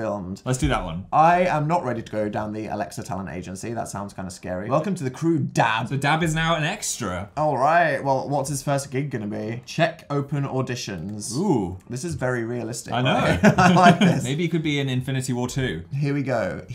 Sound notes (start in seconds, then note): 13.1 laughs